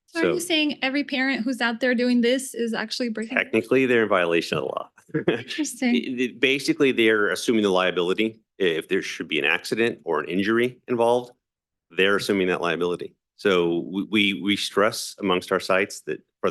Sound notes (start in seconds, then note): 5.1 laughing